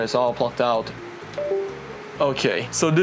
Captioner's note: windows ding